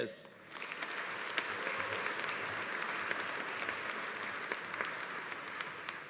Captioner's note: audience applauding; audience cheering